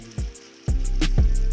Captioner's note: splashing